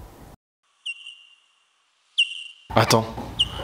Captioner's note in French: Ultra-sons de chauve-souris